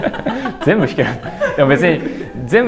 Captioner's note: laughs